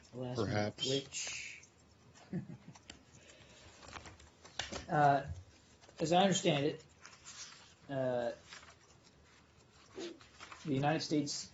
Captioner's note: laughter